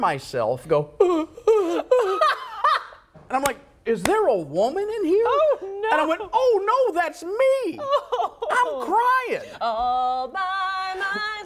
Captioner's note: laughter